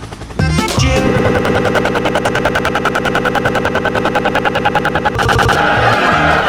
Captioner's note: glitchy laughter sound, which I find it funny, duh. :>